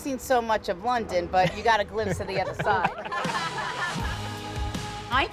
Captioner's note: laughs